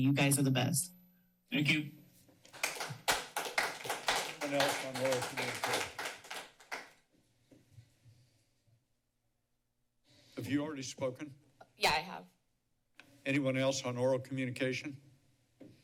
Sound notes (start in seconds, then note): 2.4 applause; 6.4 silence